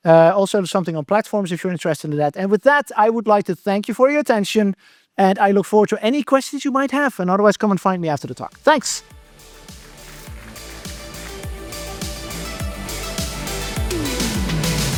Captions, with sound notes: Something on platforms if you're interested in that. With that, I would like to thank you for your attention, - and I look forward to any questions you might have. Otherwise, come and find me after the talk. Thanks! [Audience applauding] [Outro music playing]